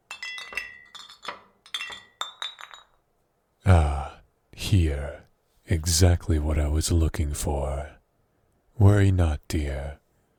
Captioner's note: bottles clink